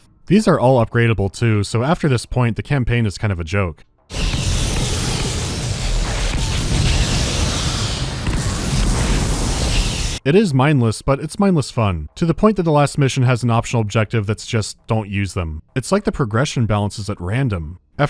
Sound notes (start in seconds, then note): 4.1 sounds of relentless annihilation